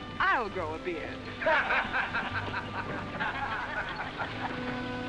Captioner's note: laughter